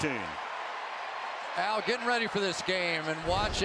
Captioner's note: cheering